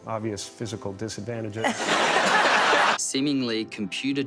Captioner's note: audience laughter